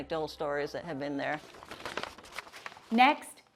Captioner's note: paper crinkling